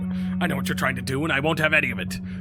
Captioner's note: none